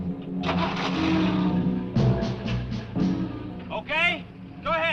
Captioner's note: engine cranks